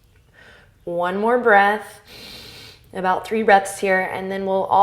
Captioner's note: inhale